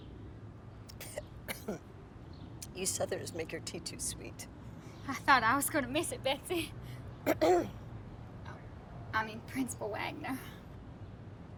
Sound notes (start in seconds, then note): 1.4 coughing; 7.3 Betsey clears throat